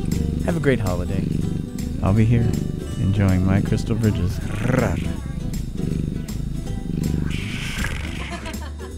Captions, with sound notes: Have a great holiday… I'll be here... Enjoying my Crystal Bridges... [Purring] [Purring]